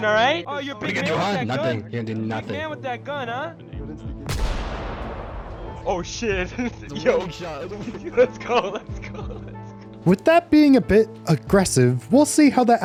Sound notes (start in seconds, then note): 4.2 gunshot; 7.7 laughs; 7.8 giggles